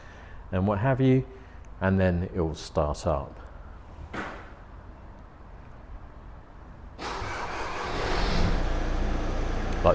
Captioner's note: van starts